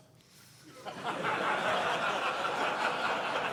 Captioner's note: laughs